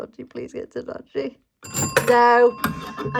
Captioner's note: bell Rings!